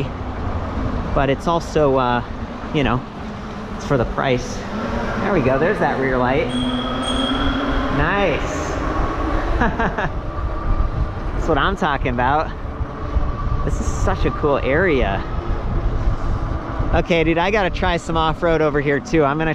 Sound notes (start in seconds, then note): 6.4 bell ringing; 9.3 laughing